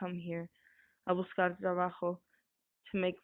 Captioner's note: voice actor speaking foreign